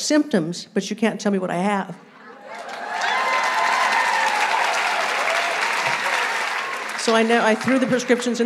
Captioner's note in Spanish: aplausos